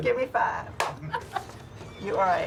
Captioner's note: laughing